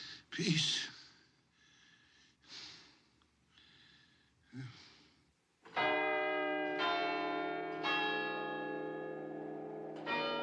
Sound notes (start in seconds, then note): 5.7 CLOCK CHIMlNG